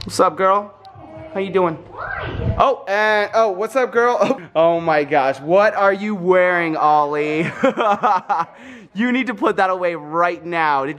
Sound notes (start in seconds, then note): 7.4 laughing